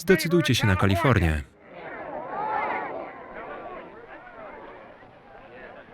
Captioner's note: crowd chattering angrily